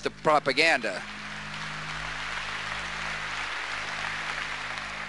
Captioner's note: audience applause